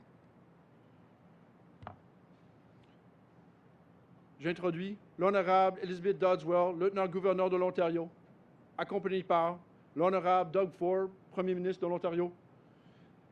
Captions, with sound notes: and cabinet and head of Ontario Public Service. (Speaks French)